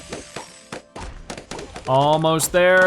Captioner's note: balloons popping rapidly